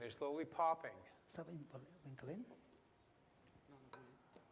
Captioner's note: non-english speech